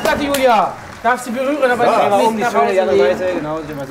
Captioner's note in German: Stimmengewirr